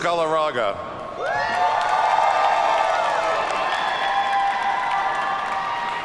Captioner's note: audience cheers and applauds